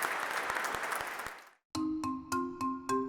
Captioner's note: applause